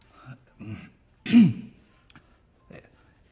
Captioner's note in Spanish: carraspea